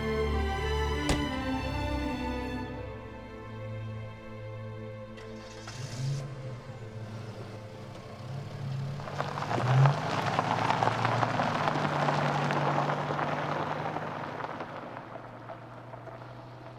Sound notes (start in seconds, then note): 4.9 car engine starts